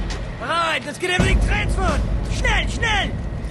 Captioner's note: Говорейки на немски